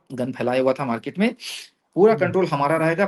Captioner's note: nasal voice